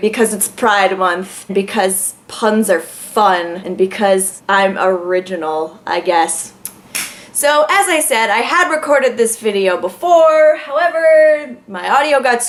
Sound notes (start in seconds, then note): 6.2 tongue click; 6.9 leg slap